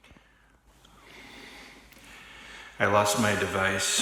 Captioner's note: breathes heavily